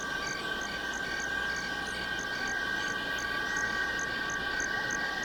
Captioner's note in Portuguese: Pássaros cantam